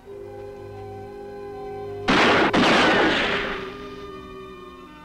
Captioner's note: gun firing